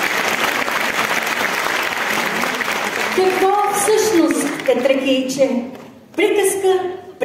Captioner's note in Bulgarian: аплодисменти